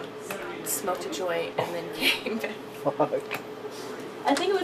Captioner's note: laughing